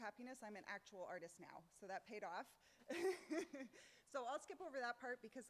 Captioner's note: laughs